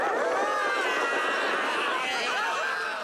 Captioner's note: devils shouting